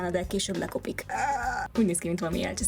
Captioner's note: horror noises